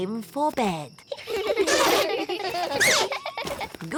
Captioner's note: all giggling